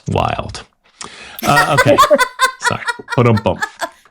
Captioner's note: both laughing